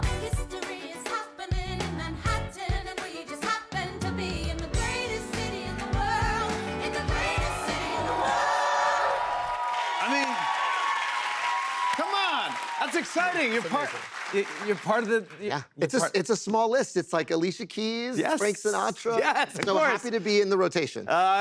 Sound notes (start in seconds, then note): 9.0 cheers and applause